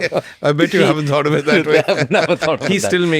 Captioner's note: laughs